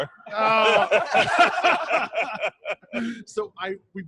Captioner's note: all laughing